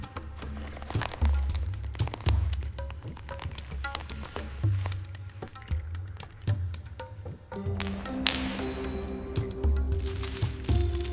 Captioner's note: fire crackles